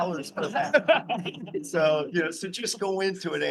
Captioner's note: all chuckling